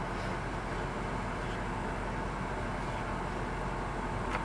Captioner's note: air conditioner whirring